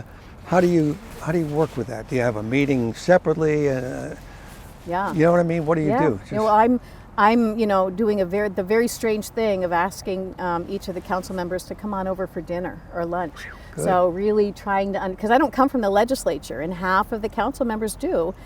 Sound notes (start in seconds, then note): 13.4 whooshes